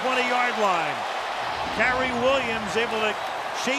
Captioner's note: cheering